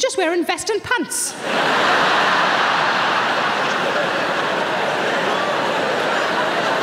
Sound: audience laughing

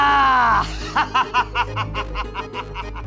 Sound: laughing

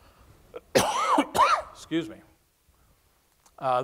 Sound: coughs

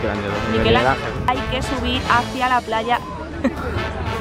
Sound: laughter

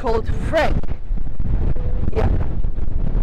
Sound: bad audio because of the strong wind

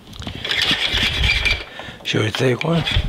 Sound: pan scrapes

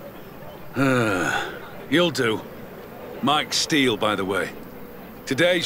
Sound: sighs

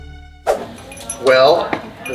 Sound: screen swooshes

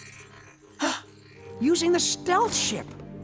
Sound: gasps

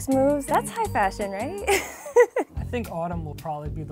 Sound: laughs

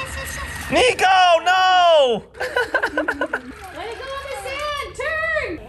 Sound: laughs

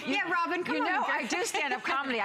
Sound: laughter

